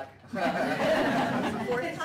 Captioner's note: laughter